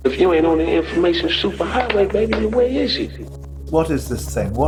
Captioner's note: soundbite of archived recording